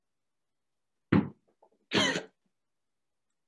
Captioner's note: wheeze, cough